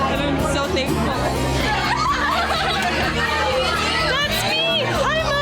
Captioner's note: women cheering